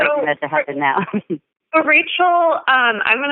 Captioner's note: chuckle